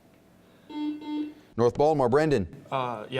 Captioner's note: buzzing